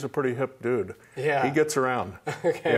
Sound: laughs

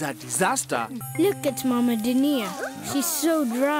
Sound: gasping

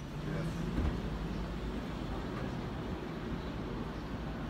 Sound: bustling traffic

